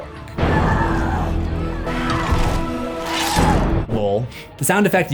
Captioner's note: Karen grunts